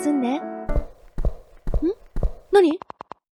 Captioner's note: someone's footsteps